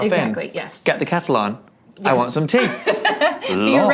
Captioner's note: laughing